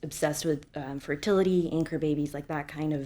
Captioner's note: none